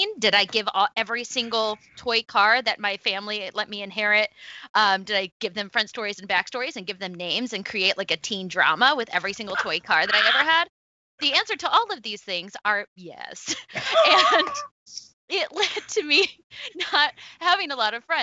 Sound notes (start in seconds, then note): 13.8 laughs; 16.5 laughs